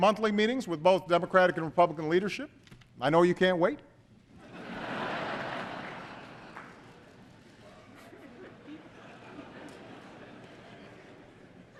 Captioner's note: laughter